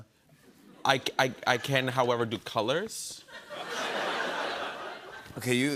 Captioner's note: laughter